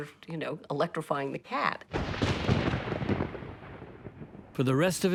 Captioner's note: thunder rumbling